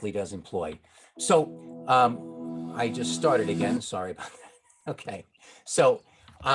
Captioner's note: chuckling